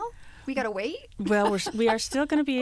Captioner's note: laughter